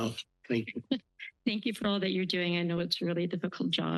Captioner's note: laugh